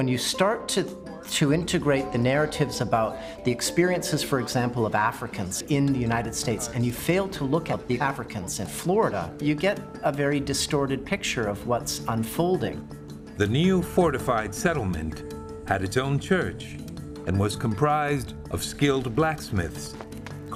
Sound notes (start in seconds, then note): none